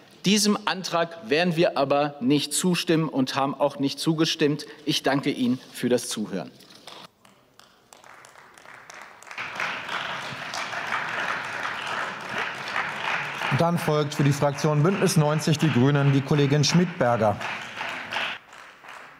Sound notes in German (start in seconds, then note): 6.7 Beifall